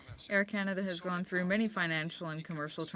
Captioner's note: speaking French